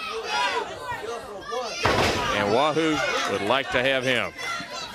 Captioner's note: crowd chatter